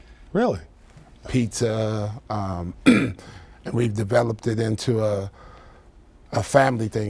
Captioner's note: coughs